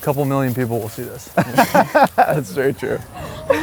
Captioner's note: laughs